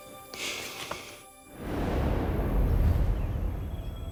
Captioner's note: swooshing